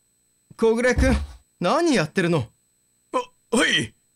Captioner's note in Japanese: どつく音：ドン！